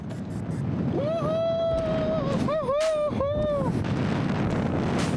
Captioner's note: cheering; wind blowing